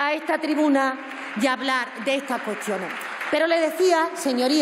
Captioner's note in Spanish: Aplausos